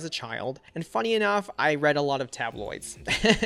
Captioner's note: laughs